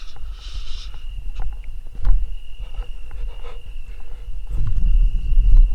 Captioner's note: hushing; insects chirping